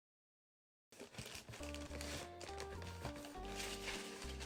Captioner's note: paper rustles